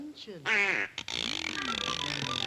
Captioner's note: duck quacks; meat grinder clicking; playful music